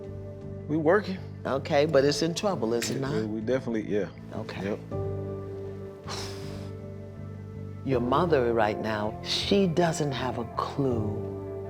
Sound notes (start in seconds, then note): 6.0 sighs